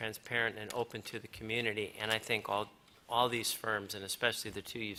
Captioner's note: none